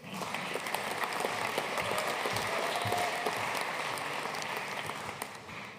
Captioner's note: audience cheering and applauding